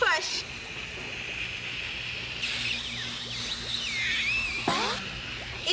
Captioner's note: air hissing